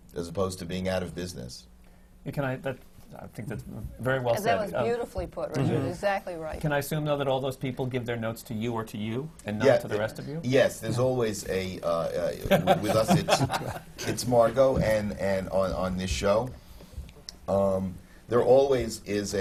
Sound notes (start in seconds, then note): 12.3 laughs